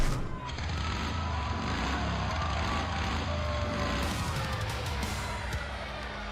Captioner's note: motorcycle